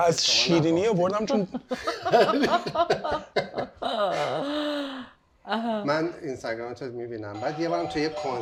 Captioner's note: laughter